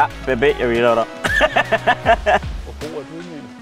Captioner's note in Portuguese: Risada